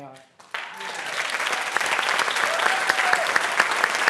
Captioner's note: applause